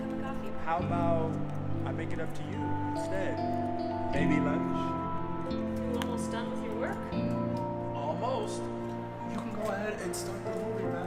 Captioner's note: voices continue